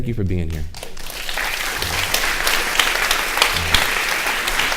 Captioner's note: audience applauding